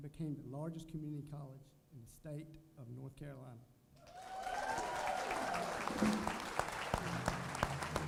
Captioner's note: applause